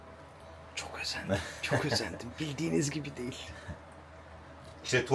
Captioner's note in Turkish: kahkaha